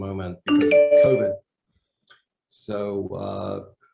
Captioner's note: computer chimes